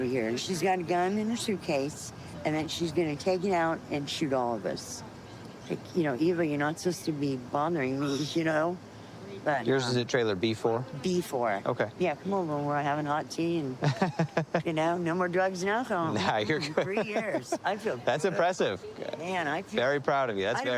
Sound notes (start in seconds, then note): 13.8 laughs